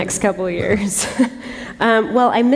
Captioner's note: laughter